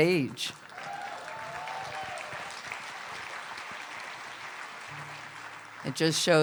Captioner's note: cheers and applause